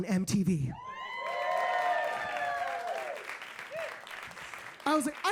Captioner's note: audience cheering